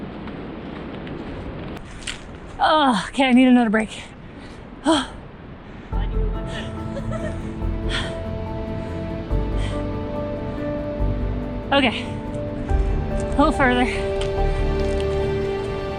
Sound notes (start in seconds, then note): 6.5 laughs